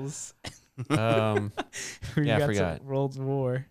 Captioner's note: laughing